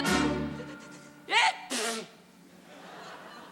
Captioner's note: sneezes loudly; audience laughing